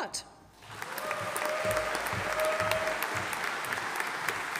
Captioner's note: audience applauding